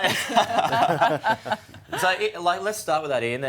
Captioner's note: laughter